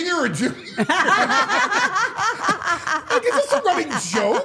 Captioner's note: all laughing